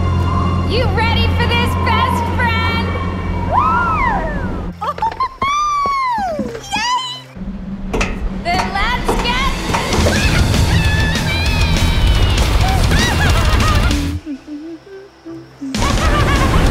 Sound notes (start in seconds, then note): 4.7 laughs; 14.2 humming